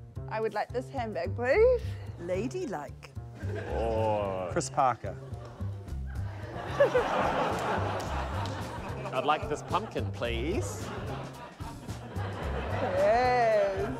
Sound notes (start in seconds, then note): 6.0 laughter